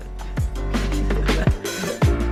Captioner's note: laughs; chillhop music